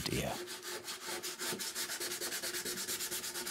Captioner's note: sanding noise